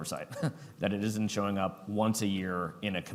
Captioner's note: chuckles